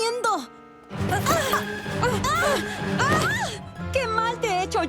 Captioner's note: shouts